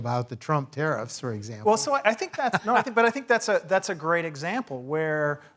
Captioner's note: laugh